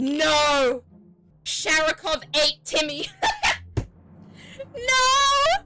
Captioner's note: laughs